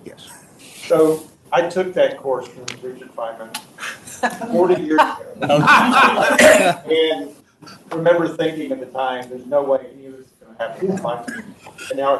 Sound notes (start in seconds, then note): 5.4 audience laughs